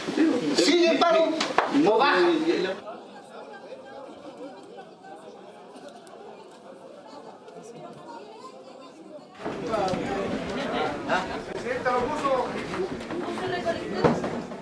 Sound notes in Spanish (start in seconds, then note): 9.4 murmullos asamblea